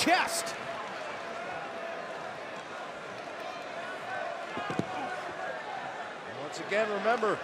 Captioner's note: crowd chatter